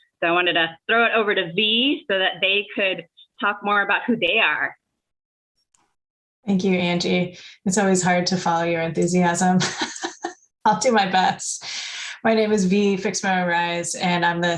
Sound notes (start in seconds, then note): 9.6 laughter